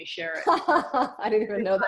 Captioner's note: laughs